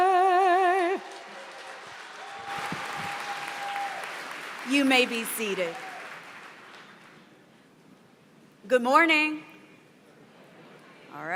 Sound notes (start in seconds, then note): 0.9 applause